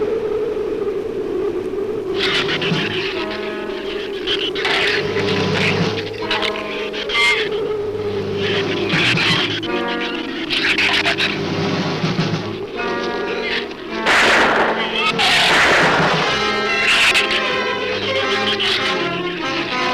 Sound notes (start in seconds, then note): 1.9 ominous orchestral music; 1.9 shrew chatter; 14.0 gun fires; 16.7 shrew chatter